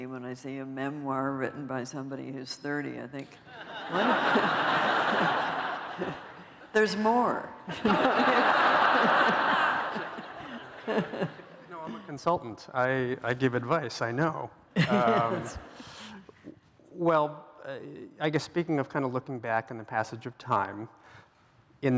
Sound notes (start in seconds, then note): 3.4 laughter